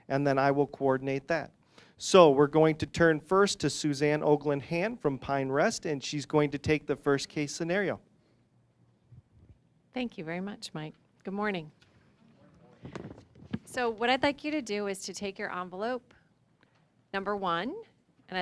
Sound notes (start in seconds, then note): none